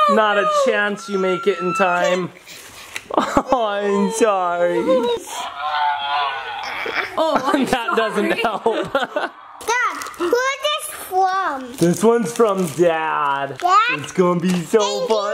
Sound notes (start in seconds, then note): 1.9 whines and cries; 5.5 toy growls